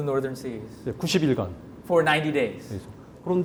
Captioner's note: speaking in Korean